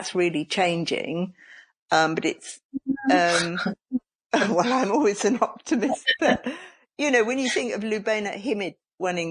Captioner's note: quiet laughter